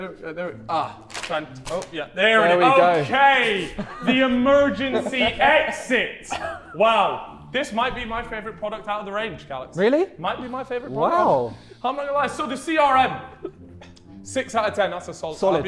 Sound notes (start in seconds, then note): 6.2 Vikram and Harry chuckling; 13.2 Sidemen laughing